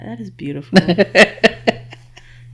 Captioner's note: laughing